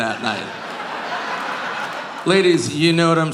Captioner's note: audience laughing